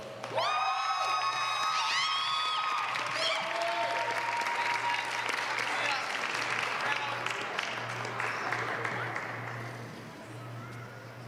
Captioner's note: applause